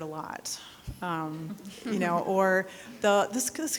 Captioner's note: people giggling